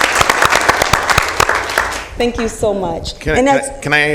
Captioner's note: applause